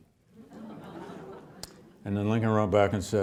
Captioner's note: audience laughing